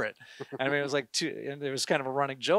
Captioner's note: gentle laughter